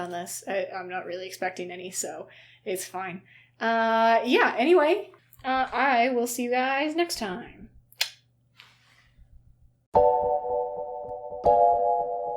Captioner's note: tongue click